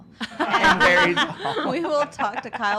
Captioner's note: laughs